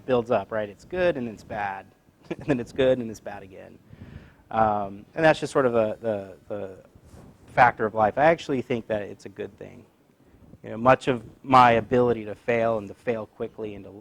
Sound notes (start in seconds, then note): 2.3 laugh